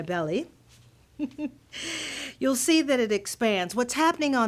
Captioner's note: laughter